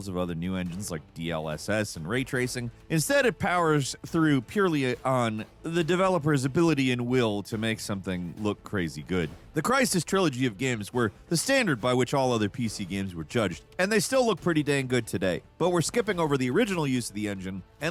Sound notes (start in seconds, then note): none